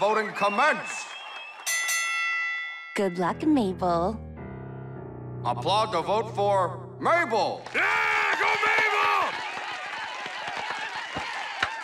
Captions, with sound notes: LET THE PARTY CROWN VOTING COMMENCE! ( bell rings ) GOOD LUCK, MABEL. APPLAUD TO VOTE FOR MABEL! YEAH! GO, MABEL! ( cheers, applause )